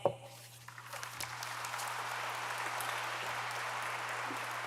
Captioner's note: audience applauds